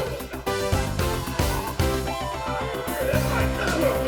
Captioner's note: wrestlers groaning